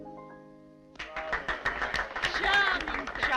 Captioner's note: applauding